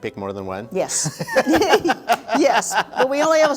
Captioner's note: both laughing